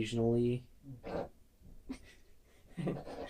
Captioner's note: laughter in background